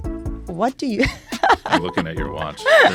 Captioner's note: laughs